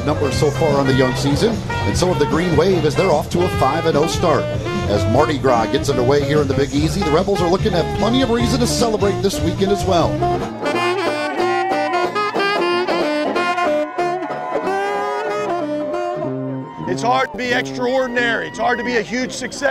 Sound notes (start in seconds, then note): 10.5 exciting jazz music; 13.1 crowd cheering